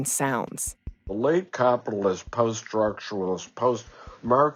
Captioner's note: mocking tone